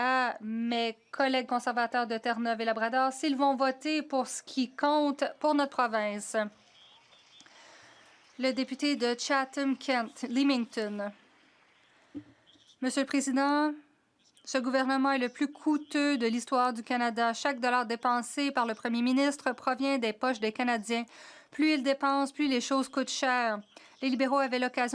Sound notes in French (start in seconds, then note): 15.0 voix de l'interprète